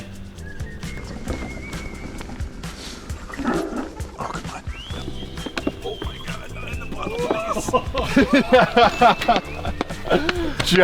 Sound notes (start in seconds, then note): 0.2 lively music; 0.2 wheels whooshing; 6.2 laughing